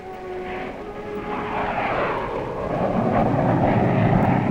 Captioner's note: relaxing classical music; plane whooshing